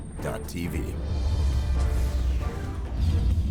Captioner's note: voiceover